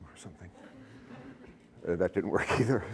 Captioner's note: laughter